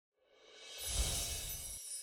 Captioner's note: swoosh; chimes